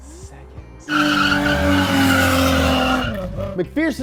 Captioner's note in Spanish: rechinar de llantas